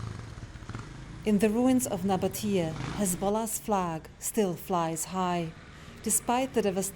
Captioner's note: voice-over